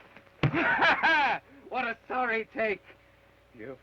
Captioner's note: laughs